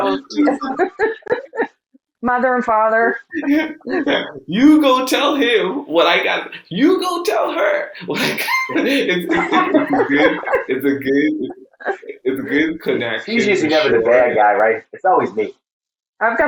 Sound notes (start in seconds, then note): 0.0 laughing; 4.0 laughing